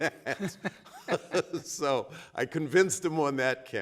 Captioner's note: laughing